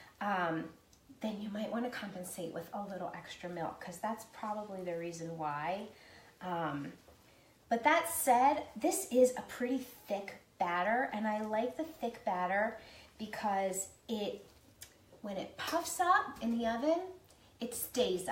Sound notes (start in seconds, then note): none